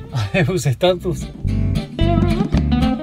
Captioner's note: laugh